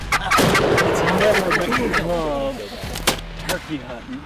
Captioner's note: gun blasts